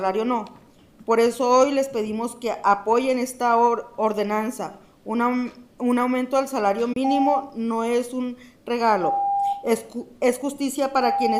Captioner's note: speaking in spanish